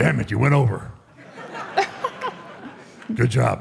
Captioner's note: Michelle and audience laughs